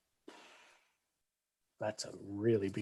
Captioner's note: sighs